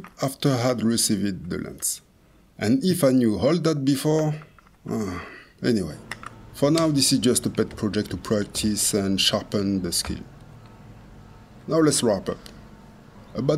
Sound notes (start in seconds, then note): 4.9 sigh